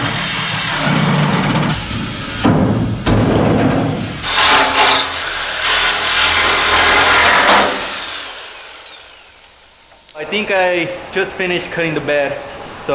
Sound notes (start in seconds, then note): 2.6 metal clanging